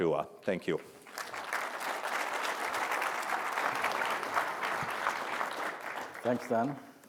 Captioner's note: audience applause